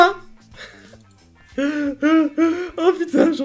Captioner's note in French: rires agacés